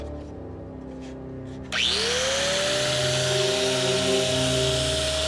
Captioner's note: grinder whizzes